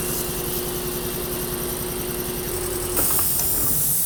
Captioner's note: air compressor whirring